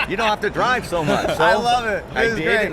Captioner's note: laughter